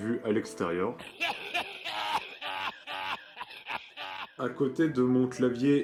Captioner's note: laughs